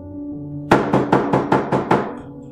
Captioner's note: loud knocking